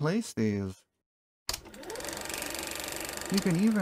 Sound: projector sound

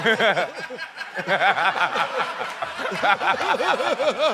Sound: laughter

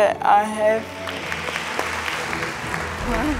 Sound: audience clapping

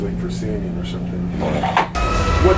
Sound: quietly; window loudly opens in the background

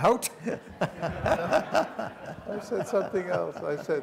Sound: laughter

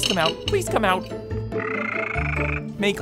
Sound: trilling

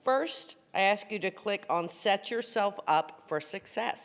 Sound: none

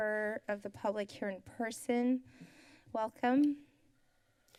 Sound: breathe

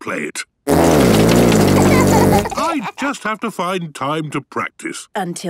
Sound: laughter

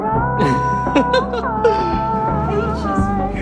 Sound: laughs

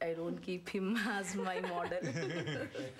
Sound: laughter

